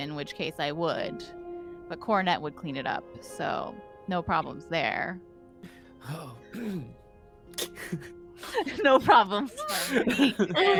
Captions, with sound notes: in which case I would, but Cornette would clean it up, so no problems there. - Oh! (Cornette chuckles) - No problems for me. (Cornette laughs)